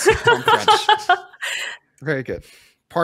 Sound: laughs

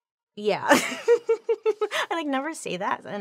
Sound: laughing

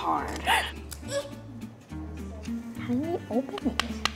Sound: whimpering

